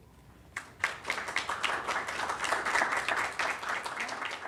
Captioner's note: applause